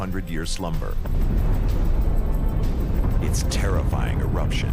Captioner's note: Explosion